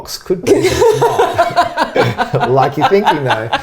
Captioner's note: laughing